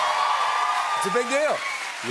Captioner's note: cheers and applause